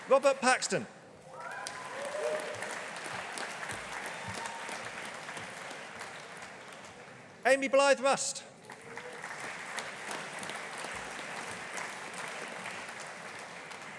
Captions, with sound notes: Robert Paxton. (AUDIENCE APPLAUDING) Amy Blyth Rust. (AUDIENCE APPLAUDING)